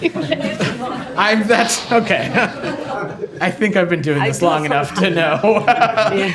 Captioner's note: laughter